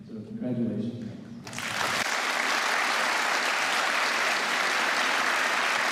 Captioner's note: applause